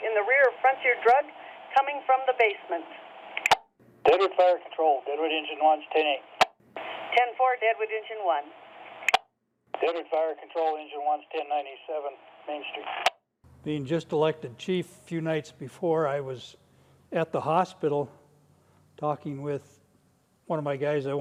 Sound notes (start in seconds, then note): 4.3 man On Radio; 7.3 woman On Radio